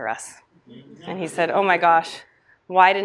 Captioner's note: audience chuckles